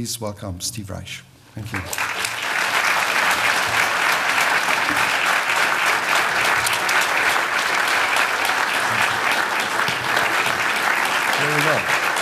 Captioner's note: applause